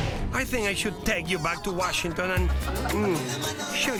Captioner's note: laughing